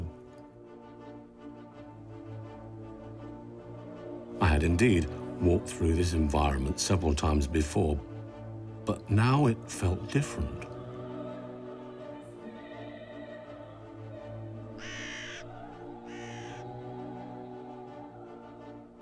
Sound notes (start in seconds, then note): 14.7 birds squawking